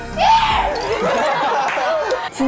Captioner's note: hahaha